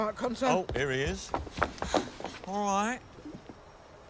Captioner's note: pants